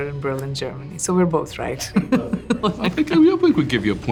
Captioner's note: laughs